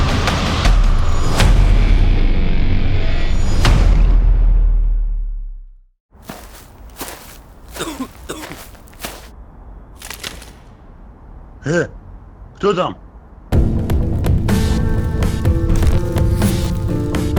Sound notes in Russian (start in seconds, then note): 6.2 шаги, мужской кашель; 10.0 хруст сломанной ветки; 11.9 мужской голос